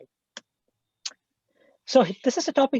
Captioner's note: mouse clicks